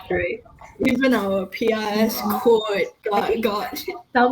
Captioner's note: stutter